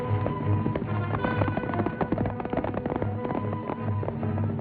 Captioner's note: horses galloping